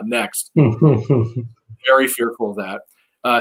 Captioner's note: laughing